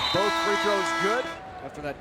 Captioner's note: buzzer rings